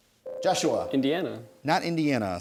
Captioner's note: ding